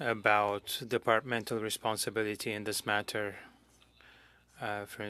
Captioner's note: speaking French